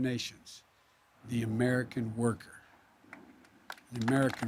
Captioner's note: applause